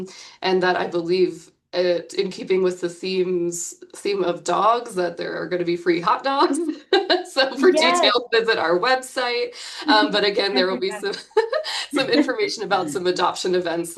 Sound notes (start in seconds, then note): 6.4 chuckles; 9.8 laughs